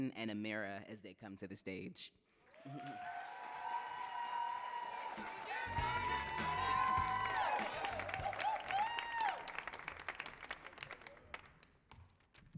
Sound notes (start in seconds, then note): 2.7 audience cheering and applauding; 4.9 funky music